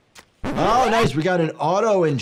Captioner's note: autoinjector clicks